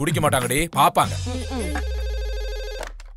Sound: phone rings

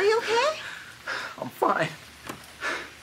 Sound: heavy breathing

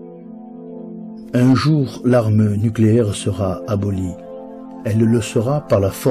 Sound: man speaking French language

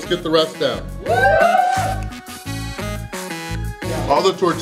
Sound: cheering

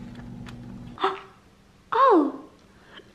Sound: gasps

